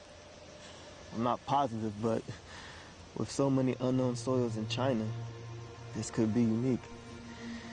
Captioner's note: none